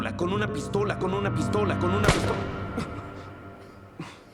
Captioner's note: gunshot